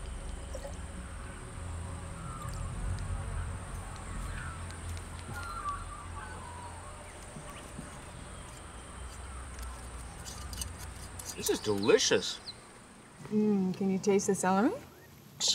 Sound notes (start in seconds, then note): 0.2 birds chirping; 0.4 water sploshes; 7.6 bottle top scrapes